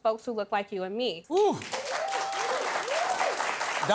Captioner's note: cheers and applause